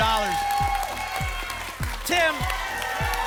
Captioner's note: applause and cheering